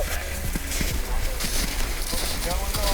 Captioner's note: snow crunching